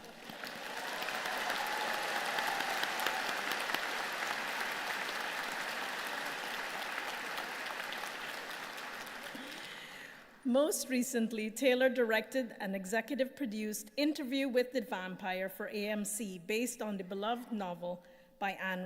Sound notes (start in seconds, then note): 2.1 applause